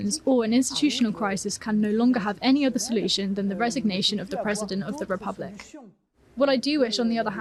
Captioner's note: speaking french